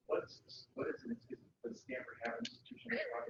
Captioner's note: speaking away from mike